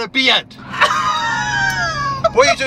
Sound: laugh

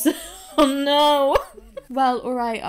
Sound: laughs

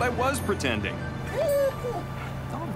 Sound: whining

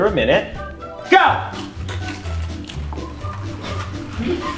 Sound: crackers crunching; laughing; bright cheerful music

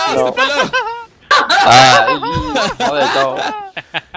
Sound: laughs

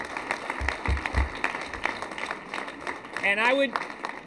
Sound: applause

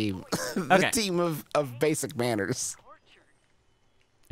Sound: laughs

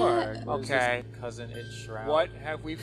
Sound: dinging sound

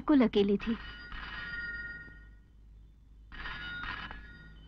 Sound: phone ringing

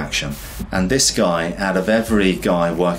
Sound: air whooshes

